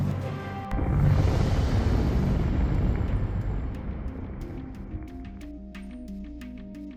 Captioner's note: gentle suspenseful music; explosion booming